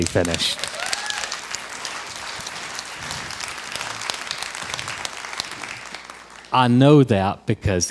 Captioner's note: crowd applause